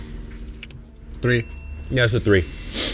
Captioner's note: bell chimes; sniffs